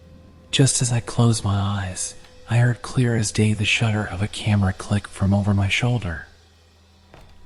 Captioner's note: click